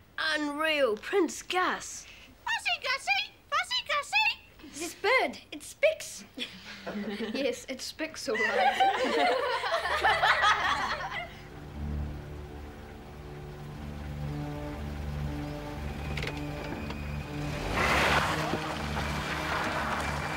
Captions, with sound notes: - Unreal! Prince Gus! - Gussie, Gussie! Gussie, Gussie! - This bird! It speaks! (everyone laughing) - Yes, it speaks alright. (children laughing) (car engine running) (car revving)